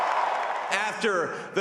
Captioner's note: cheering